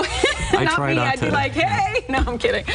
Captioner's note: laughs